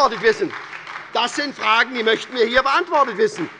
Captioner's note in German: Beifall bei der SPD